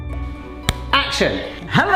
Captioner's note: hand thudding